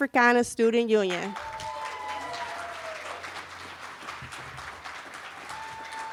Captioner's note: cheering